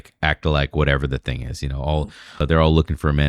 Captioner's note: uh